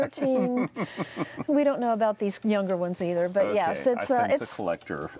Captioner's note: laughter